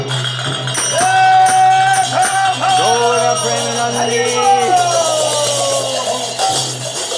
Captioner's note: chanting; cheering